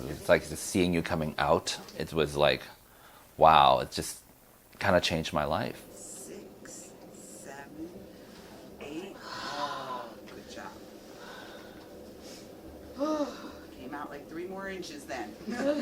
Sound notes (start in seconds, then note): 12.4 breathing heavily